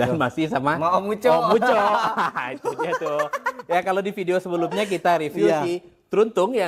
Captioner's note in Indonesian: tertawa